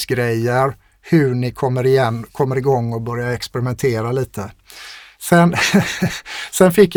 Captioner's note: laughter